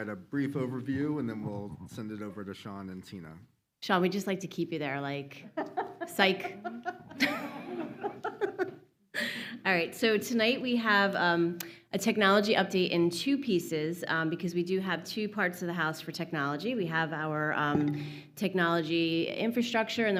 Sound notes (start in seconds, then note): 5.4 laughter